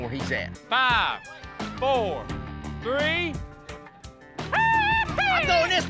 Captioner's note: yelling excitedly